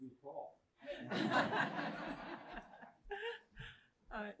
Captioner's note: laughter